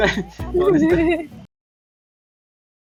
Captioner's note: laughs